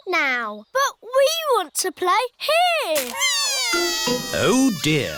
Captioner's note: crying